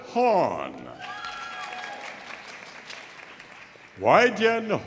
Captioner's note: audience applauding; audience cheering